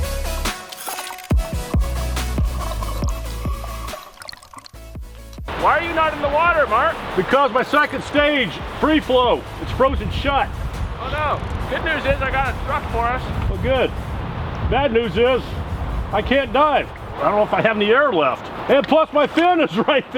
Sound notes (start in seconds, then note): 2.3 air bubbles gurgle